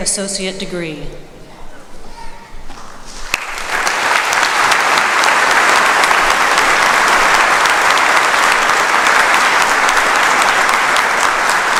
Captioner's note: applause